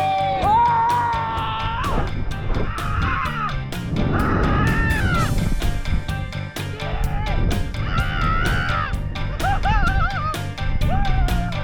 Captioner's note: men speaking in background; screams